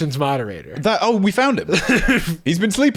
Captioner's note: laughing